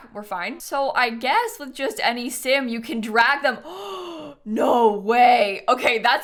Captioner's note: gasps